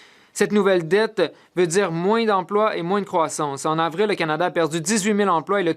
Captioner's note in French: voix de l'interprète